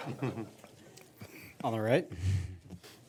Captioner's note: audience laughing